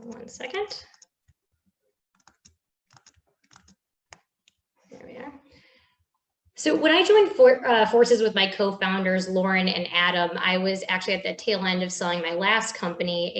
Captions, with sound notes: Hold on one second. (keyboard clattering) There we are. So when I joined forces with my co-founders, Lauren and Adam, I was actually at the tail end of selling my last company